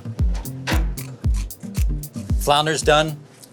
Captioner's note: scissor cutting